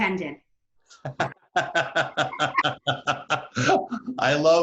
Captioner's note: laughing